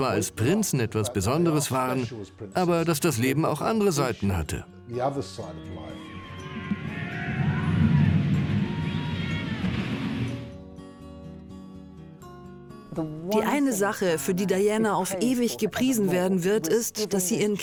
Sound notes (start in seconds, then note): 5.8 screaming; 12.9 voiceover